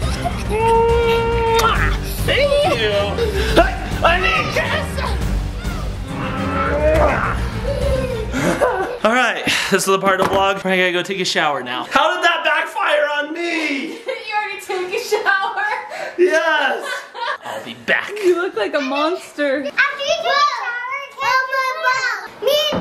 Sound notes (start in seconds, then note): 0.1 smooching loudly; 5.6 smooching loudly